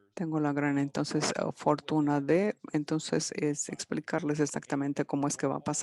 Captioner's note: speaking in foreign language